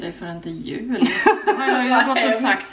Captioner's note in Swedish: skratt